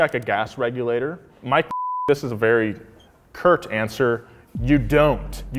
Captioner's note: beep